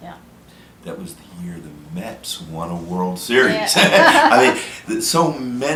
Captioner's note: laughter